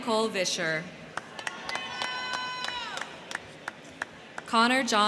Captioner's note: crowd clapping; crowd cheering